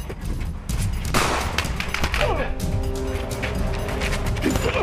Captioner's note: gunshot cracks